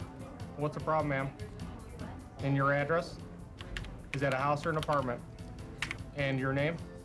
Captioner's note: none